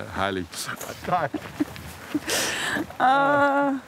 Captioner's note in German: Lachen